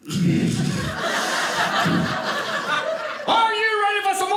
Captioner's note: audience laughing